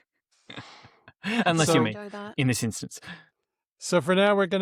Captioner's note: laughs